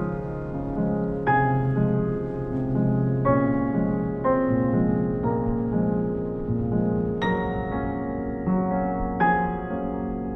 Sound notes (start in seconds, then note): 3.2 wind blowing